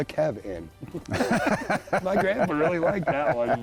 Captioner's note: both laugh